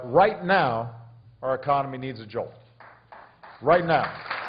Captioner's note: applause